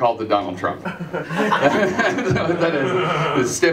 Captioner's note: laughter